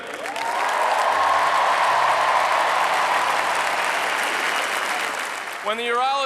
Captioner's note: applause